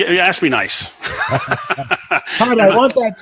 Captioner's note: laughing